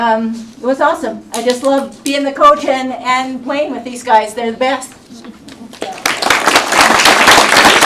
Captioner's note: applause